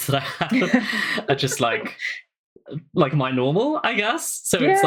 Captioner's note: laughing